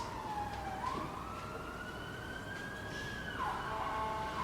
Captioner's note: ambulance siren